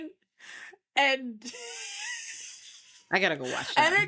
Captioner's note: laughing